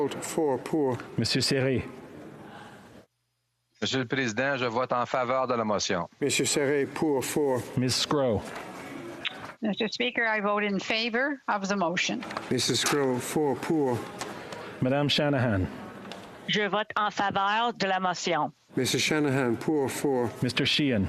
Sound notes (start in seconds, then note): 6.7 speaking French; 20.8 speaking French